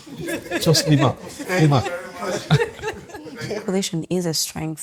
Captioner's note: laughs